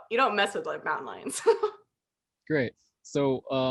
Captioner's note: laughter